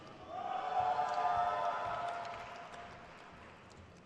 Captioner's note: crowd cheers